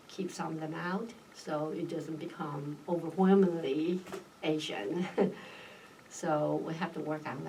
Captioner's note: laughs